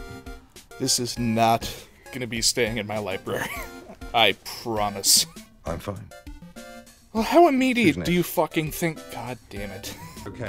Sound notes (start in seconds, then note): 3.9 wheeze; 9.8 wheeze